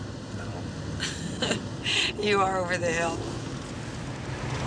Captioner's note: laugh